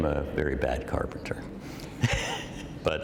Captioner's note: laughter